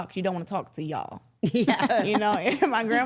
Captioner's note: everyone chuckles